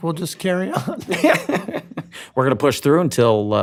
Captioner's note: laughs